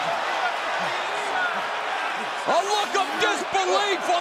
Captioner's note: crowd chatter